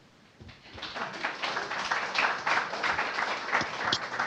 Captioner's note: audience applauding